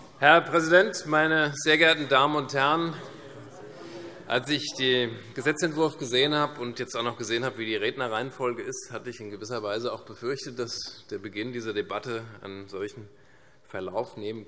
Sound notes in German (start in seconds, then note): none